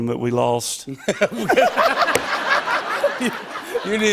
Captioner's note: laughter